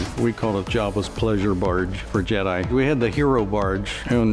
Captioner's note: none